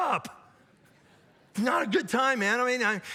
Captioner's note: audience laughs